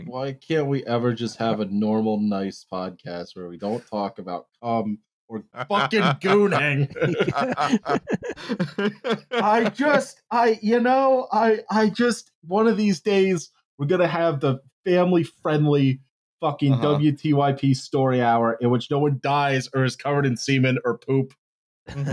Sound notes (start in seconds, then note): 5.4 laughs; 7.3 laughter